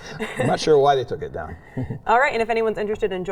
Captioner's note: chuckles